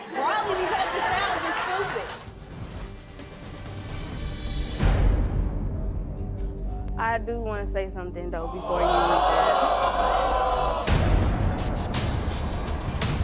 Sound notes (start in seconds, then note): 2.2 dramatic music; 8.6 audience oohing